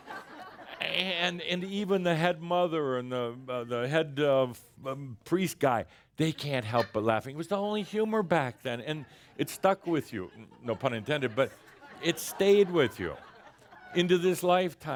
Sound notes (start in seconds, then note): 0.0 more laughter; 8.8 more chuckles